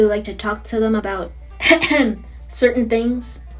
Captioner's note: ahem